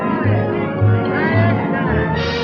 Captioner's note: chattering